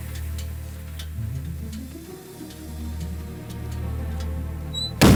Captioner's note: engine clicking; suspenseful music